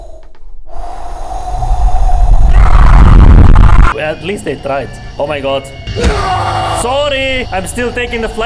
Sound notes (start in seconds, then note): 2.5 screams 3 times!; 6.0 worst scream ever